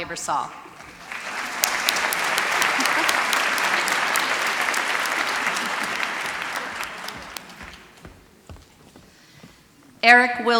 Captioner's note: applause